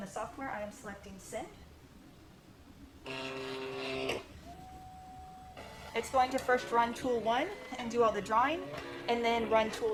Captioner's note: machine motors